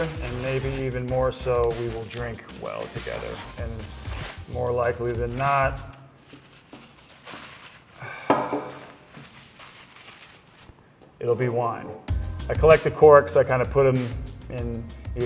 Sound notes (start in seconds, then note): 6.5 paper crinkles; 8.0 sighs